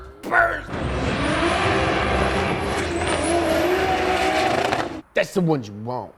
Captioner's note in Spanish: Revoluciones del motor de tono alto